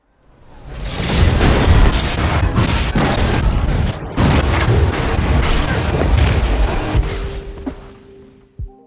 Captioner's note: explosions